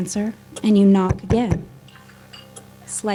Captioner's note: knocking